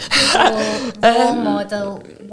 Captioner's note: laughing